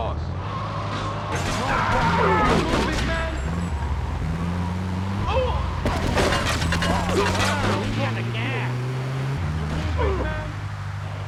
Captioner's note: plane engine roaring